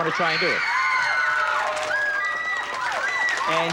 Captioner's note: loud cheering and applause